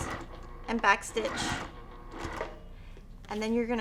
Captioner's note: sewing machine whirring